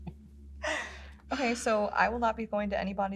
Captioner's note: both laugh